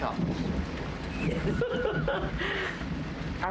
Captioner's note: laughs